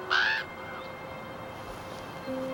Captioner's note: raven caws